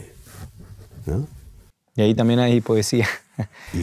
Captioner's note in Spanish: risas